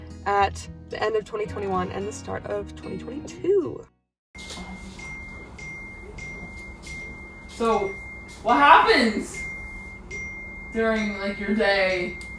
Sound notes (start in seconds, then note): 4.9 constant phone notifications going off